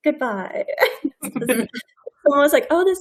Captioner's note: people laughing